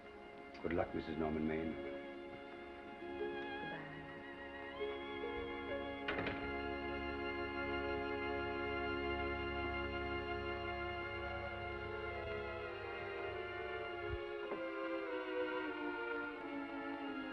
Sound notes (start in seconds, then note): 5.0 gentle music; 5.9 door latches; 12.2 somber music